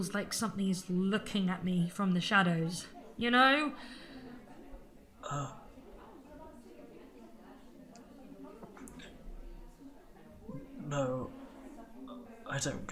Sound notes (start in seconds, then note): 8.0 a pause